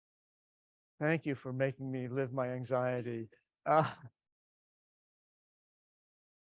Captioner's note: laughs